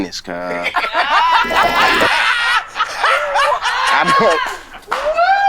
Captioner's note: group laughing